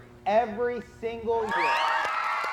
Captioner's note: cheers